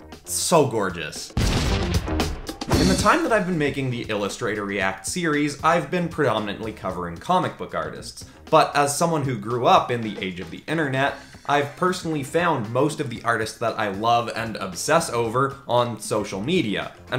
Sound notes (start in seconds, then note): 1.3 exploding